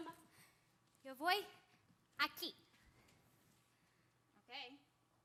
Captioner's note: speaking Spanish